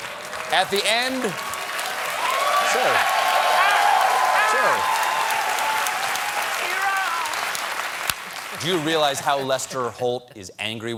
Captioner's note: applause